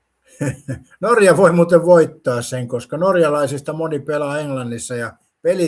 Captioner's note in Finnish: naurua